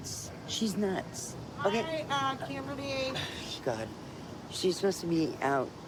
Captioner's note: scoffs